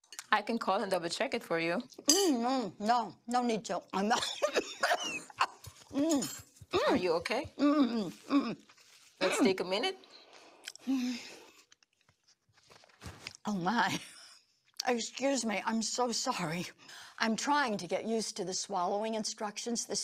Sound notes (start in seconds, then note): 4.1 coughs; 8.3 mumbles